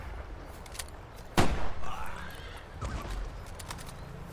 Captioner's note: gunshot, groaning